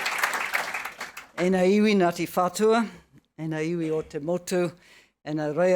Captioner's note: speaking in foreign language